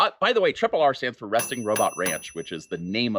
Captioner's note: bell pinging